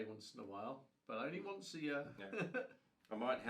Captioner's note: laughs